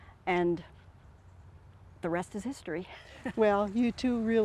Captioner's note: chuckles